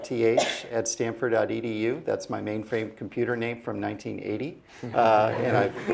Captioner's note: laugh